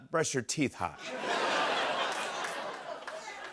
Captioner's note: laughter